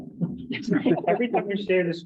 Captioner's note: members chuckle